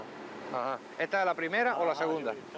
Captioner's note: in Spanish